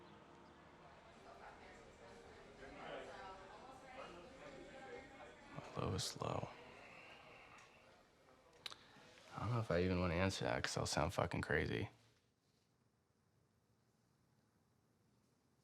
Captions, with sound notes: (people chattering) My lowest low. I don't know if I even wanna answer that, 'cause I'll sound fuckin' crazy.